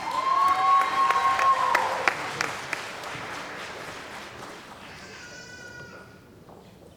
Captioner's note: cheering & Applause